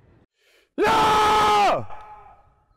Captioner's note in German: schreit laut